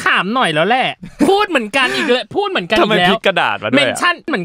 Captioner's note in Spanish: risas